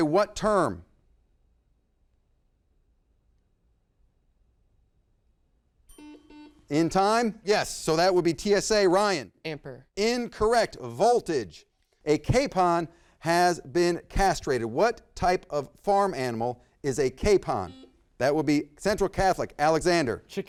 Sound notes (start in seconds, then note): 5.9 bell dings; 5.9 buzzer beeps; 17.5 buzzer beeps